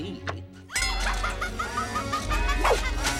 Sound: Hazel laughing maniacally

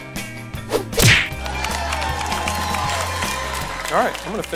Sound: cheering and clapping

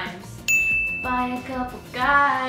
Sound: bell dings

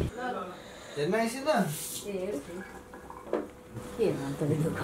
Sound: in Nepali

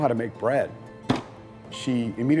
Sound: soft thud

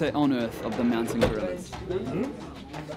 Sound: van door slams

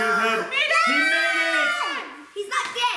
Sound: cheering

